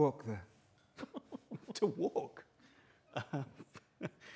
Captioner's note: laughs